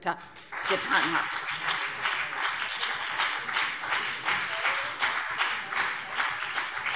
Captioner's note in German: Beifall BÜNDNIS 90/DIE GRÜNEN und CDU